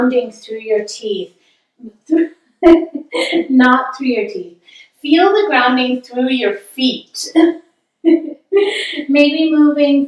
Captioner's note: laughing